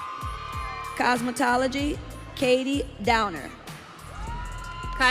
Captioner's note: audience cheering